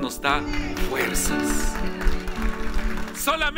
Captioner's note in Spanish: aplausos